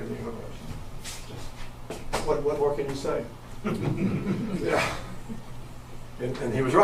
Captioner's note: audience chuckles